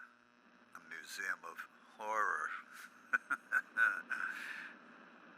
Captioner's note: laughs